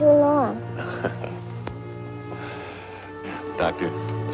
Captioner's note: chuckles